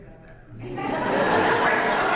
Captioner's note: audience laughs